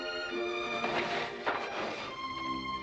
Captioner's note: shade rolling up